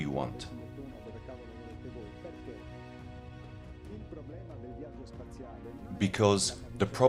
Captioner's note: dramatic music continues; speaking in foreign language